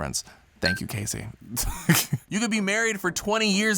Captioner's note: laughs